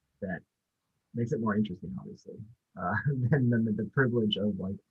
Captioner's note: chuckles